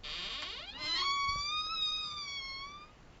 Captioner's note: loud creaking